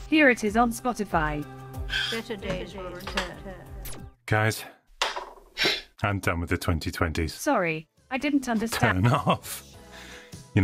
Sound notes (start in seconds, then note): 3.9 TV zaps